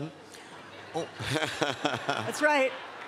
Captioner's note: laughs